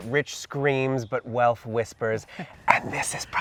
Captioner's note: chuckles